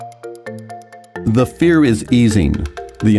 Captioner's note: voiceover